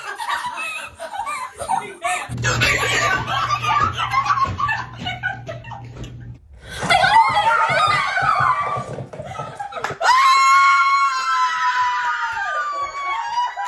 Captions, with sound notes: I got in! Oh my God! I got in! [Screaming]